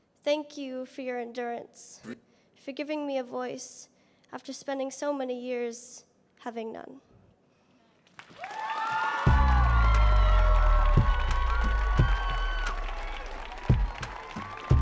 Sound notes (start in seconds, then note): 8.3 audience cheering; 9.2 upbeat music